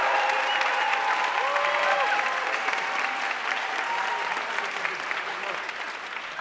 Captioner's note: audience cheering and applauding